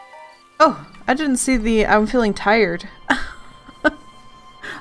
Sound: laughs

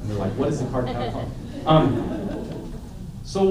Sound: laughter

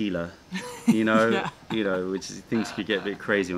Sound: laughter

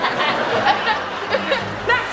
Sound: laughing

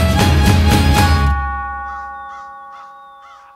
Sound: bell Tolls

